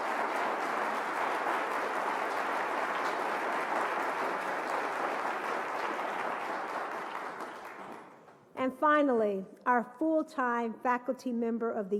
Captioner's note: applause